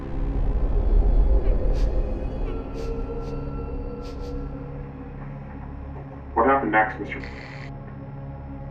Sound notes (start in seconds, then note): 1.8 crying